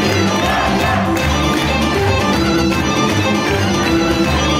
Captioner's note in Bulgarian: аплодисменти